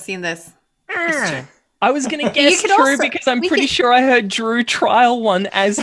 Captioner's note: frustrated noise